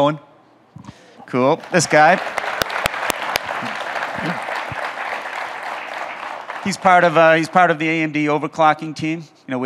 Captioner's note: audience claps